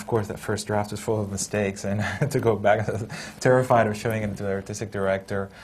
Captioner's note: laughs